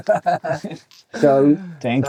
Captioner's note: laughing